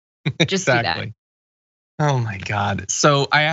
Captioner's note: laugh